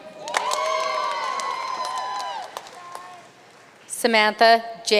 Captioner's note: audience cheering and applauding